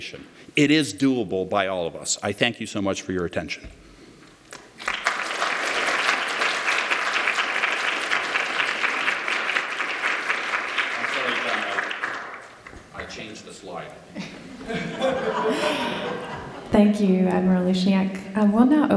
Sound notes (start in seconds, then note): 7.6 applause